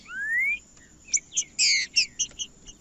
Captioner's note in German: trinca ferro cantando